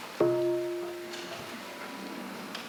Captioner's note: half bell